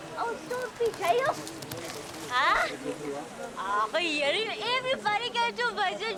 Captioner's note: woman speaking in foreign language